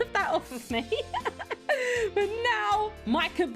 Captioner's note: laughing